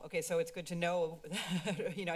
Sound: laughter

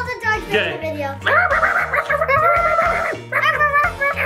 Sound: dog barking

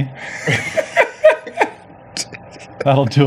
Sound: laughs

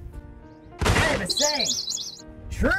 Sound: gunshot, dead bird tweeting

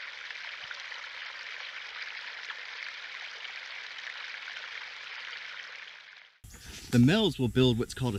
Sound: water trickling

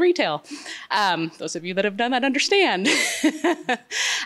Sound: laughs

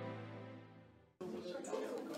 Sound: crowd chattering indistinctly; bouncy lively music

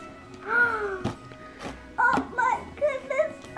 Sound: gasping

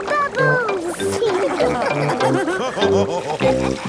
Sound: all laughing

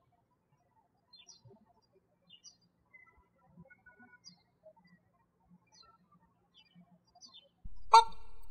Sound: birds chirping

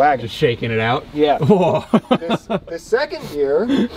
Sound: laughs

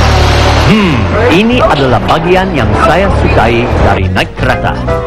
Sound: speaking indonesian

